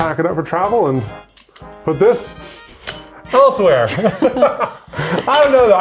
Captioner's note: laughs